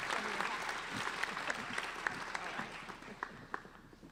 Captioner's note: applauding